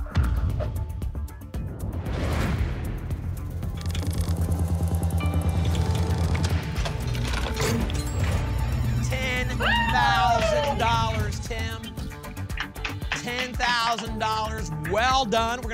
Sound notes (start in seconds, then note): 0.1 thump; 1.7 whoosh; 3.8 clicks; 6.7 cash register sounds; 9.3 applause and cheering